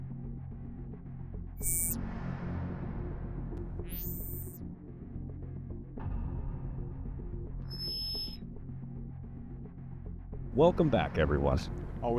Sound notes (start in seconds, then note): 1.6 text buzzing; 3.0 uneasy music continues; 6.1 text buzzing; 8.6 uneasy music continues